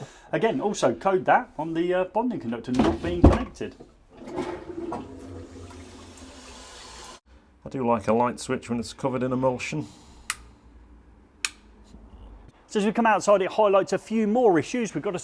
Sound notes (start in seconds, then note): 3.7 lid closing; 4.1 toilet flushing; 11.4 switch flipping